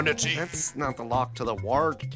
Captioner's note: Princess Peach wails in unfathomable sorrow